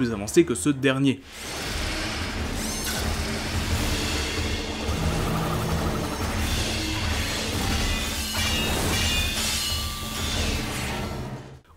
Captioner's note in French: bruitages